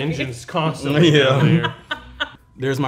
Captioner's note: laughing